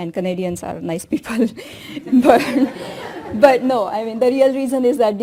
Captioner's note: laughter